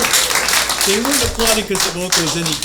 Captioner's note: applause